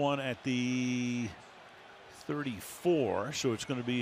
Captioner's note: cheering